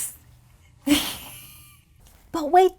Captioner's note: laughing